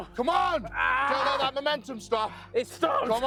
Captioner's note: grunting